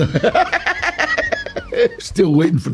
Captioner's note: Danny chuckles